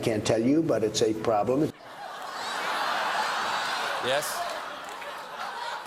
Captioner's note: laughter